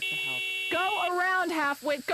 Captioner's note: horn beeps